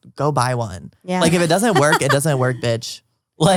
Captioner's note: laughs